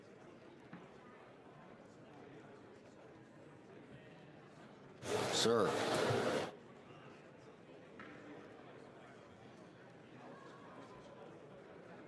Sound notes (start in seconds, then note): 1.1 crowd Noise